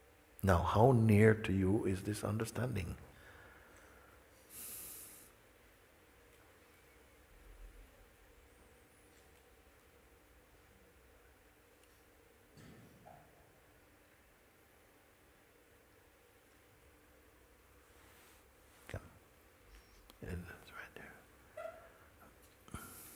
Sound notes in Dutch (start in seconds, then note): 5.0 stilte